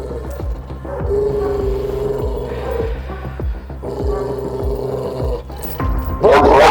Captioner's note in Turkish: Nefes alma sesi ve hırlama sesi